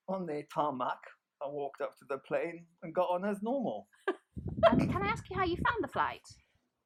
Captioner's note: both laugh